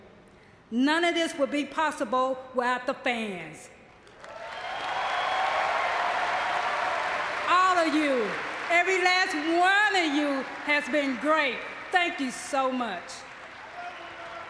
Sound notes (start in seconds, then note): 3.7 audience cheering